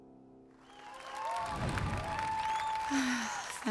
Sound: audience applauding

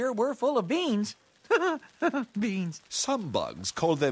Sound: giggles

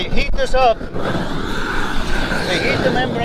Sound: air whooshes

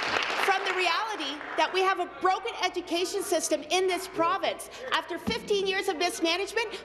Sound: applause

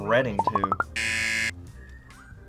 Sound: buzzer

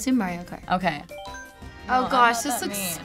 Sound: chiming in game

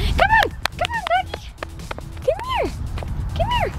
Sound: claps

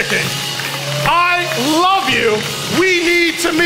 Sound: congregation applauding

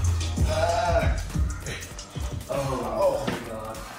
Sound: groaning

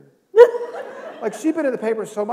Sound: laughter

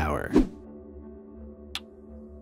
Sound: air whooshing

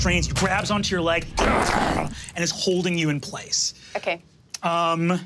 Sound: growls

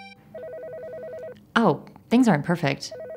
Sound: phone rings

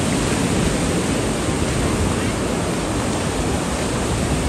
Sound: water gushing

